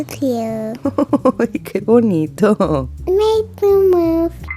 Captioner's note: laugh